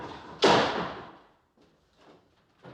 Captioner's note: door slamming